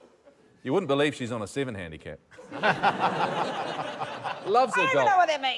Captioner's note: laughter